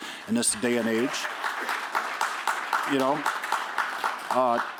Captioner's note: applause